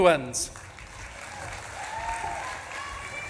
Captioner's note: audience claps and cheers